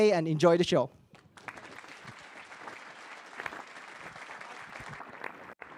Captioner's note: audience applauding